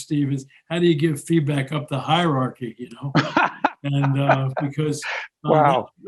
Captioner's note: laughing